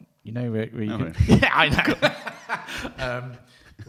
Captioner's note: laughing